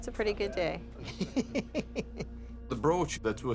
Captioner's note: chuckles